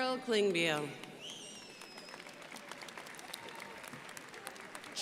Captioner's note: crowd applauding